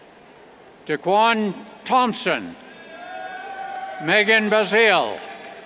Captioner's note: cheers